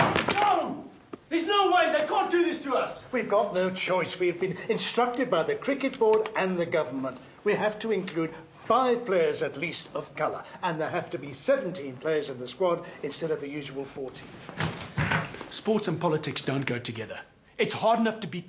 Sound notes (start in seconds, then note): 0.0 thuds; 14.6 thuds